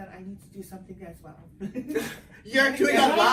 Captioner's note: laughs